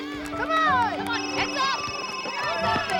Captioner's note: ringing continues